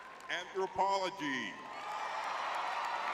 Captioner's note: audience cheering